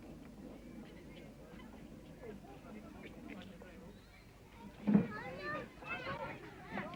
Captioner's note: indistinct chatter